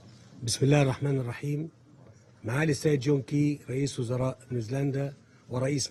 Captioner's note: President el-Sisi speaks foreign language